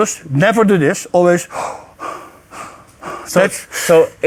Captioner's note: deeply inhales and exhales